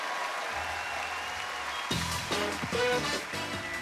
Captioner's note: loud cheers and applause; upbeat, applause